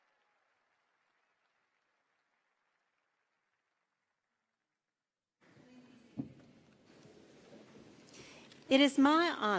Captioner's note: cheers and applause